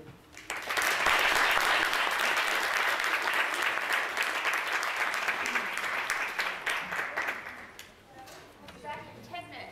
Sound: applause

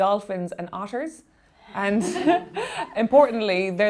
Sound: laughing

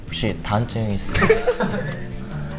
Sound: haha

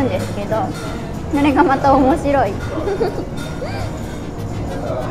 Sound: giggling

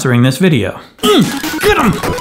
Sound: grunts

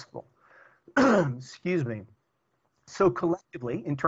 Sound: clearing throat

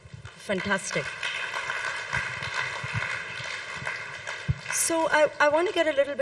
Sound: audience applauds

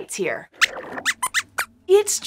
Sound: squeaks squeaks

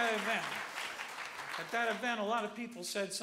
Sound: applause

